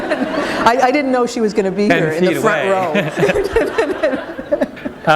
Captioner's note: laughter